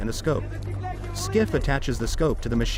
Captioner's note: soldier yelling in russian